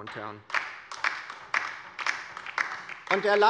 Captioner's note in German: Beifall bei der LINKEN